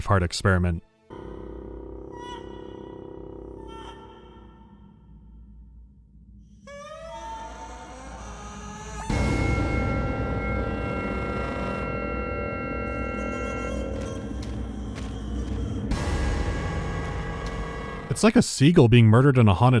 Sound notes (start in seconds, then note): 2.1 quawk; 9.0 dramatic music sting; 12.9 tortured warbling